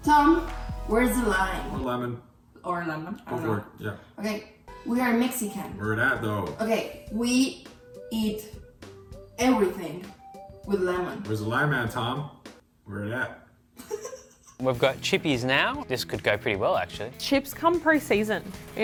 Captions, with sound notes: - Tom, where's the lime? - Or lemon. - Or lemon. - Both work. - Yeah. - Okay. - We are Mexican. - We're not though. - Okay. We eat everything with lemon. - Where's the lime at, Tom? Where it at? (laughing) - We've got chippies now. This could go pretty well actually. - Chips come pre-seasoned.